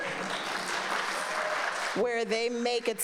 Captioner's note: people clapping